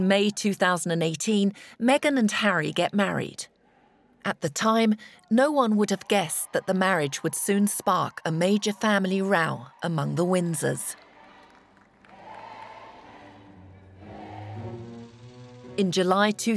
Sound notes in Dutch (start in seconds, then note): 14.1 langzame muziek; 14.1 projector zoemend